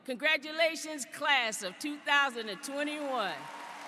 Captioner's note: applause